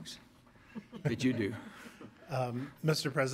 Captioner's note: audience laughter